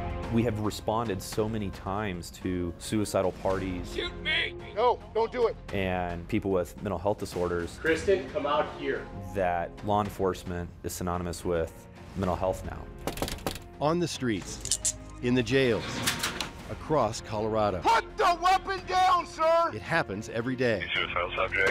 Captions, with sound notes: We have responded so many times to suicidal parties-- Shoot me! No, don't do it. --and people with mental health disorders-- Kristen, come out here. --that law enforcement is synonymous with mental health now. [knocks] On the streets. [handcuffs click] In the jails. [cell door shuts] Across Colorado. Put the weapon down, sir! It happens every day. The suicidal subject.